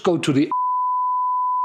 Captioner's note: beep